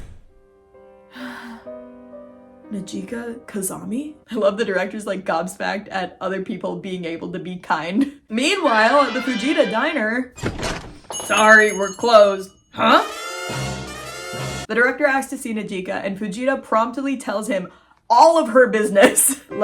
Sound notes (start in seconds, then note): 10.3 door opening; 12.8 dramatic music